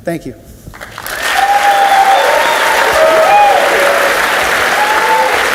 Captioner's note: audience cheers and applauds